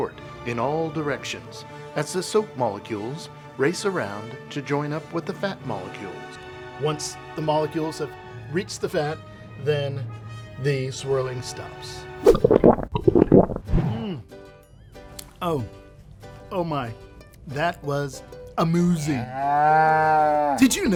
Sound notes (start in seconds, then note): 12.3 gulping; 19.1 cow moo